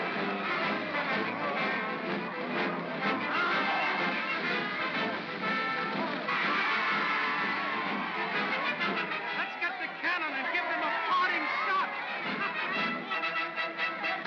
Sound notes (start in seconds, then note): 4.1 triumphant music; 4.1 water splashing; 6.2 mob cheers; 6.2 triumphant music